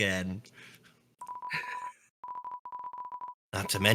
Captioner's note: laughs